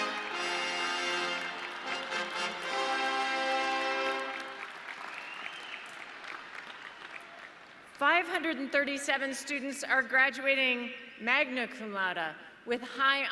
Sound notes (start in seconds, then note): 2.1 audience clapping